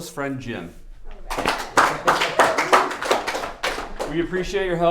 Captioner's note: applause